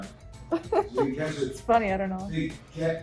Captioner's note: laughs